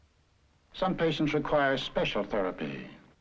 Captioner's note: voiceover